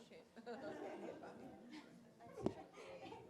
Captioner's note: laughter